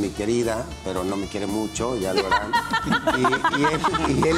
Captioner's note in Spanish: Ríe